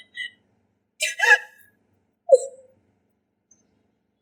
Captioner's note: cries